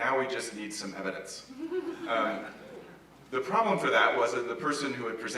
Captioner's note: laugh